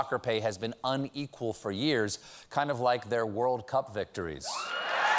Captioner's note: cheers and applause